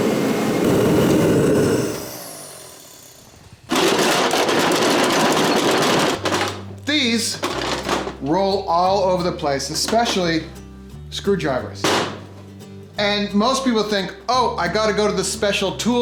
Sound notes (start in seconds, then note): 0.0 heater roars to a stop; 4.1 tools rattle